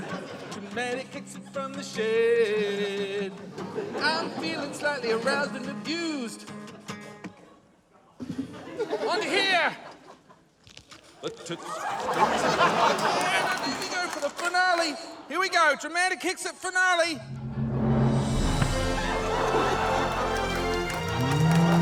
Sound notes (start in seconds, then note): 11.2 laughter; 19.2 rousing orchestral music